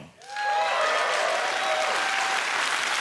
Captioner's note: applause